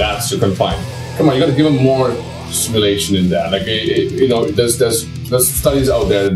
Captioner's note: stammers